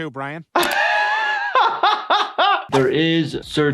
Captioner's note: laughs